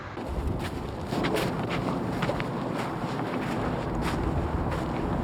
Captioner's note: wind blowing